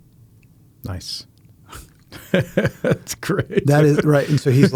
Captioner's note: laughing